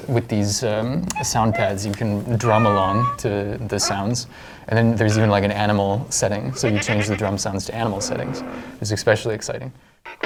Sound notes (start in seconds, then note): 1.1 various animal sounds